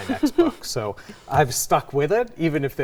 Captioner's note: chuckles